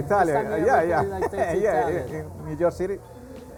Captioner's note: laughs